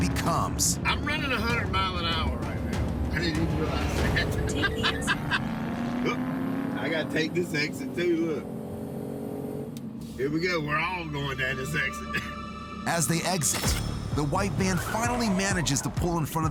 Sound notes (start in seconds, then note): 3.8 man laughing